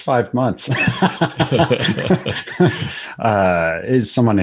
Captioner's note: laughter